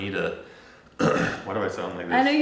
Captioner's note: clears throat